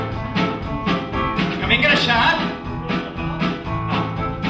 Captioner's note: in catalan